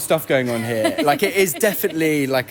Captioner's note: laughs